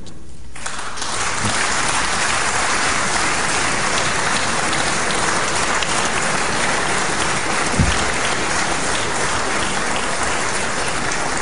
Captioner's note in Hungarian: Taps a kormánypártok soraiban